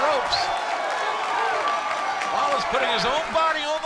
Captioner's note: crowd cheering